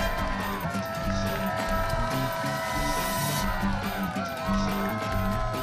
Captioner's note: cheering and applause